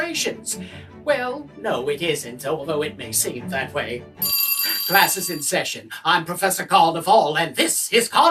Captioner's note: school bell